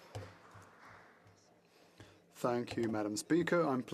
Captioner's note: speaking French